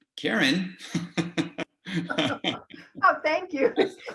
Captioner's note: laughs